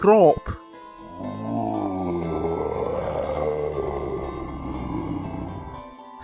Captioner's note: monster groans greetingly